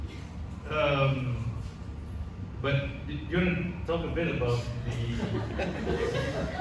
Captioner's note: audience laughs